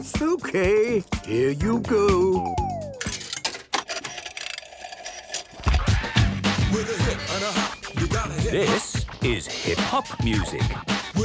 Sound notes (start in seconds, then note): 3.0 clicks, whirring; 5.7 hip hop music plays